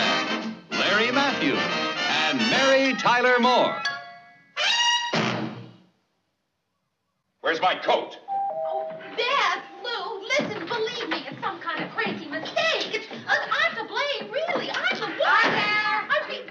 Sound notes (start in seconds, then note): 8.3 doorbell rings